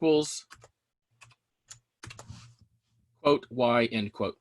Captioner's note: keyboard clicking